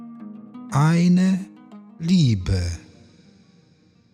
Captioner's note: german